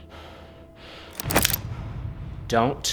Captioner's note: gun clicking